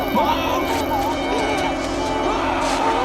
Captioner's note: baby crying